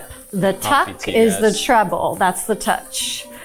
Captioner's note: mumbling